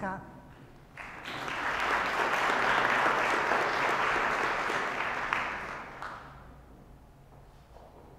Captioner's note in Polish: oklaski